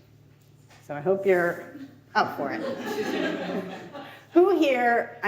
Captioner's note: audience laughs